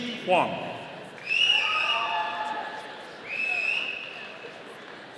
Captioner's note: audience cheering